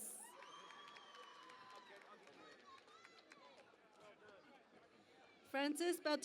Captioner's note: cheering and Applause